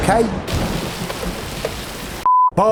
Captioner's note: thunder, rain